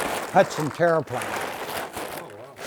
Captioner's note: tarp crumbling